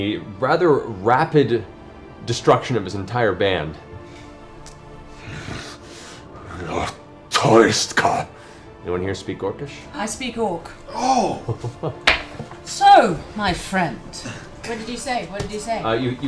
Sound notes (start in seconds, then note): 4.7 speaks Orcish